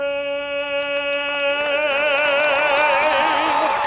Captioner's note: applause